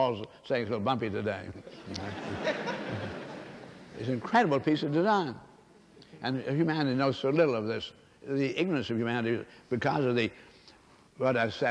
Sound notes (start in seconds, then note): 1.6 laughter